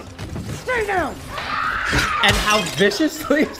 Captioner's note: Yelena shrieking